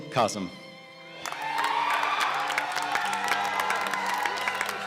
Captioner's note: cheers and applause